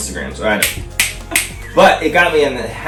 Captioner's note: snaps loudly